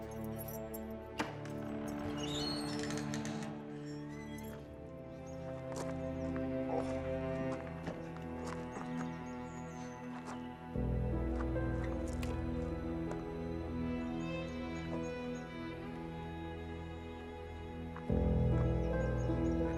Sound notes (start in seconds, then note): 2.0 door squeaks; 5.3 birds singing; 5.3 somber music